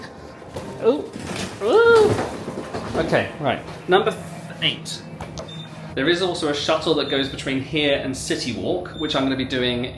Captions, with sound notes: Oh. (groans) Okay, right. Number eight. (elevator beeps) There is also a shuttle that goes between here and CityWalk, which I'm gonna be doing